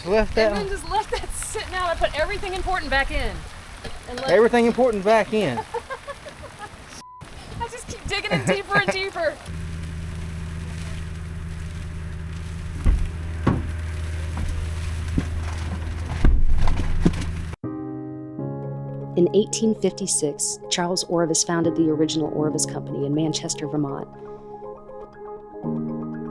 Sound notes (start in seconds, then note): 8.2 both laughing